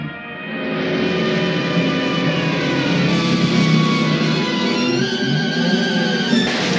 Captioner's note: police siren wails; suspenseful orchestral music